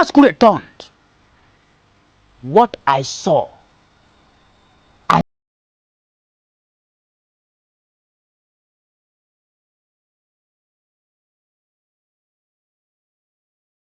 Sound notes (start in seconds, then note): none